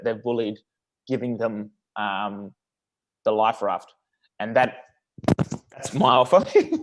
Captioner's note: giggles